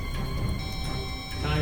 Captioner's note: loud beep